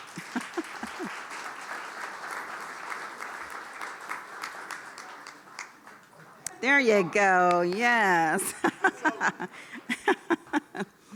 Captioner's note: applause